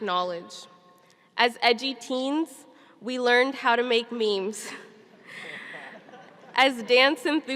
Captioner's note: laughing